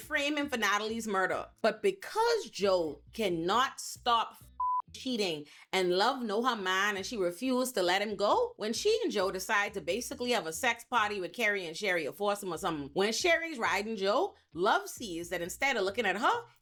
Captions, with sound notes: frame him for Natalie's murder. But because Joe cannot stop (beep) cheating and Love know her mind and she refused to let him go, when she and Joe decide to basically have a sex party with Carrie and Sherry or force him or something. When Sherry's riding Joe, Love sees that instead of looking at her,